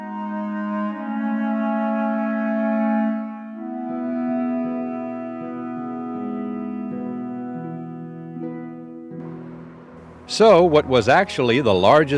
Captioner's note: cannon shot